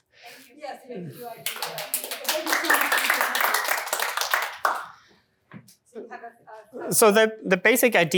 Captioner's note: applause